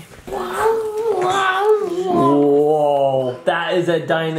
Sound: making roaring sounds

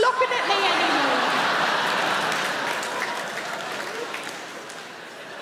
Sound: crowd laughing

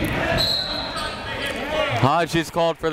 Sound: whistle

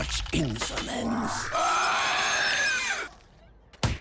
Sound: screeching

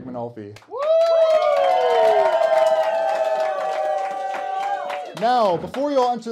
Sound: cheering

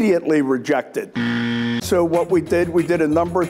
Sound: sharp buzzing

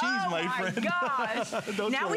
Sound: laughter

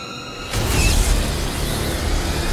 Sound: whooshing sound

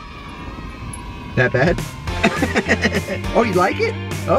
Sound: laughs

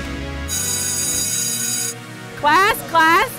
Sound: bell ringing

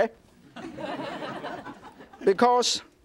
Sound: audience laughs

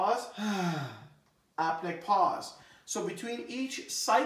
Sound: exhales; inhales

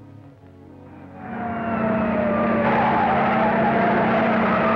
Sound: sirens wailing

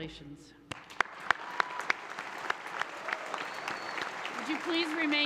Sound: audience applauds and cheers

